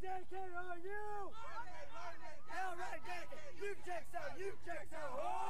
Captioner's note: cadets chanting